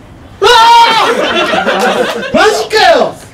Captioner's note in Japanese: 笑い